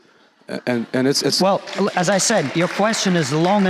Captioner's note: audience applauds